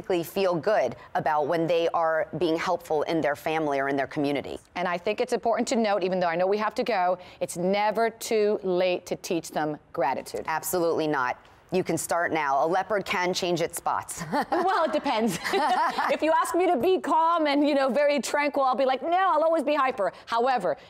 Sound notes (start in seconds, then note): 14.2 laughing